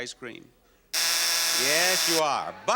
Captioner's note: buzzer sounds